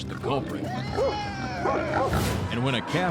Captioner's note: barking, grunting